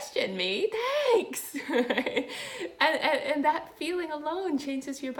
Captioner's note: laughing